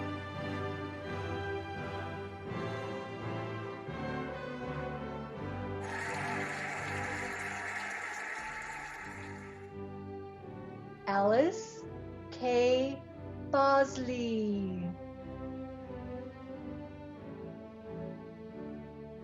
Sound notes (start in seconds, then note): 5.8 cheering and applauding; 16.3 cheerful music